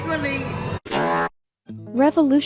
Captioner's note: fart noise